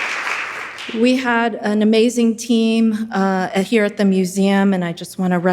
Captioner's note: audience applauding